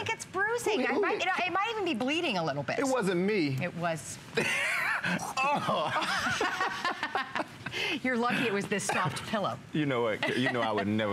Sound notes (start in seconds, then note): 4.4 laughter